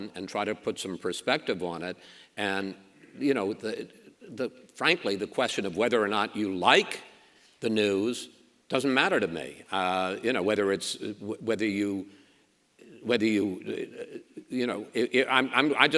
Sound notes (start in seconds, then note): none